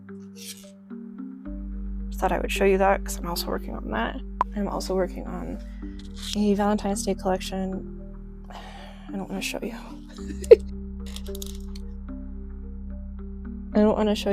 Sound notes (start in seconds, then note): 10.2 giggles; 10.2 sighs